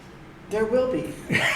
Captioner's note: laughter